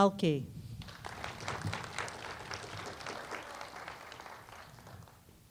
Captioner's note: applause